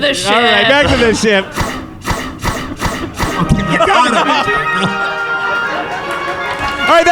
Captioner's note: fires his blaster wildly off camera